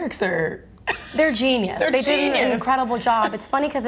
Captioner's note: laughs